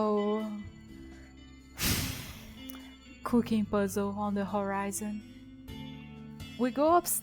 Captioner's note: sigh